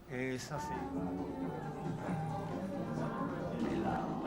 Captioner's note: faint chatter